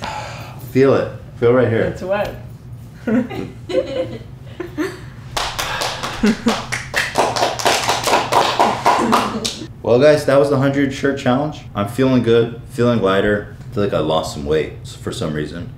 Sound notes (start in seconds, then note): 3.0 laughter; 5.3 Everybody applauds Ethan's shirt wearing efforts